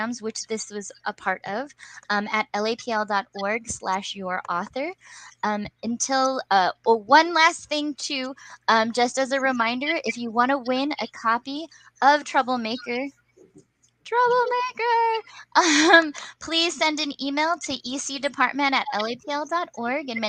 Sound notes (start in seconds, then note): 15.6 laughs